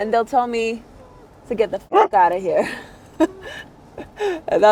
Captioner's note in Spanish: el perro ladra; risas